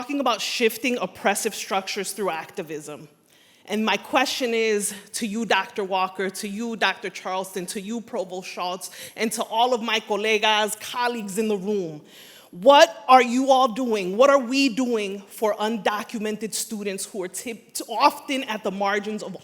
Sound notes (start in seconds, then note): 10.0 foreign language spoken